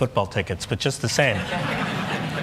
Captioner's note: laughter